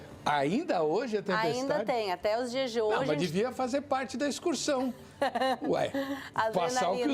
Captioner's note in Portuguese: risadas